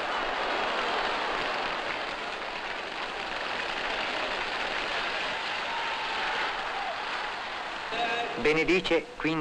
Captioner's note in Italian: Applauso